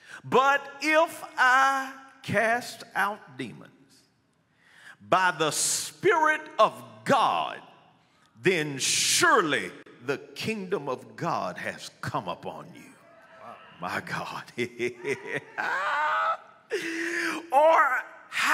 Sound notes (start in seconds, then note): 14.5 laughing